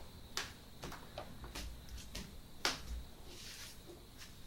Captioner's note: footsteps thudding